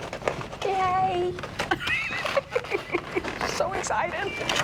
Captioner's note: laughs